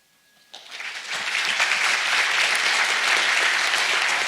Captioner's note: audience applauds